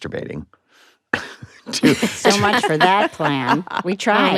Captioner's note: all chuckle